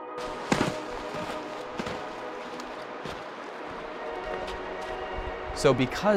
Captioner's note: sound of footsteps